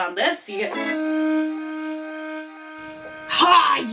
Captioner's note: flashback noise